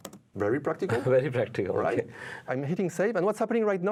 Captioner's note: chuckling